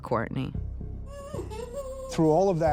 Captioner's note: cries